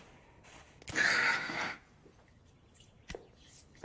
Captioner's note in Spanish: Suspiro